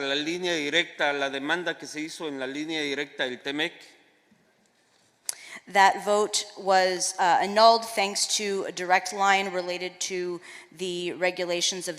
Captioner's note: speaking spanish